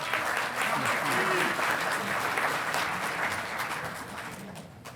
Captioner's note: audience applauding